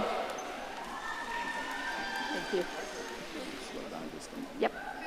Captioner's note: audience cheering